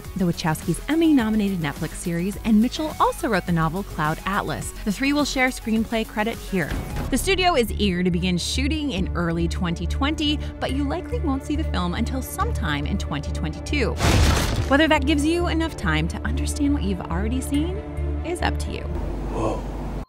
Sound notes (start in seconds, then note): 14.0 wood cracking